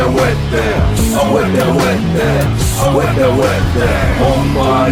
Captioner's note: non-english speech